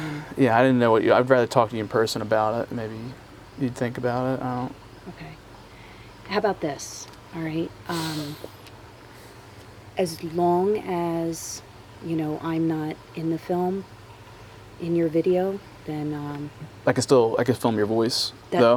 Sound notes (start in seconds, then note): none